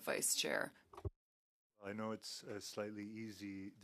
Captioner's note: speaking French